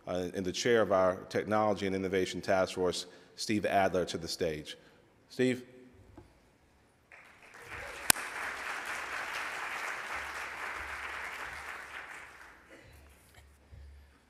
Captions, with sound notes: and the chair of our technology and innovation task force, Steve Adler, to the stage. Steve. (audience applauds)